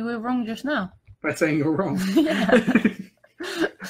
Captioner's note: laugh; more laughing